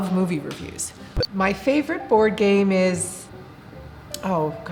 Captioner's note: beep